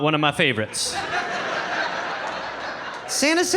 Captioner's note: audience laughing